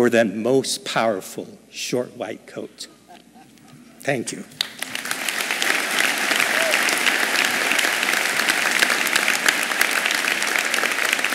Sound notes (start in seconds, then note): 6.9 applause